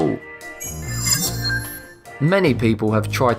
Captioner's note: sharp chiming